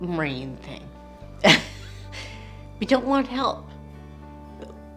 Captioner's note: chuckles